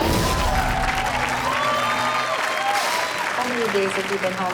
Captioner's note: audience cheers